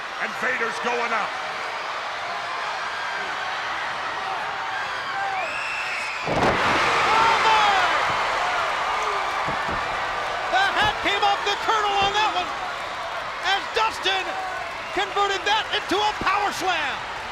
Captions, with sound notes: And Vader's going up. (crowd cheering) (Vader thuds) Oh boy! The hat came off the Colonel on that one as Dustin converted that into a Power Slam.